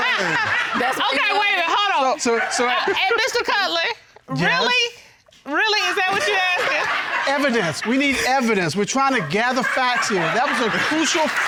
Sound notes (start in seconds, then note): 6.0 audience laughs